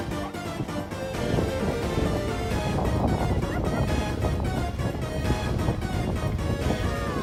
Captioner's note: high giggling, spinny edition; high giggling, on the floor edition